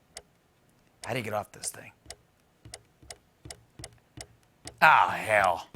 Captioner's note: clicking; clicking continues